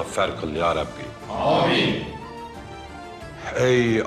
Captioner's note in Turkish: Hep bir ağızdan